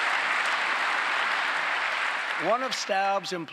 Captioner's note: applause